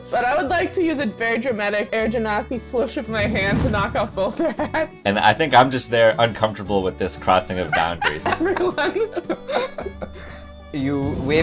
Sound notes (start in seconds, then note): 7.6 laughter